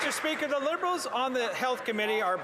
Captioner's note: some Applause